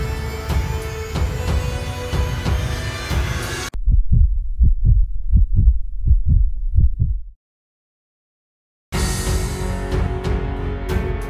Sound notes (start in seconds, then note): 3.7 pulsating sounds; 8.9 dramatic music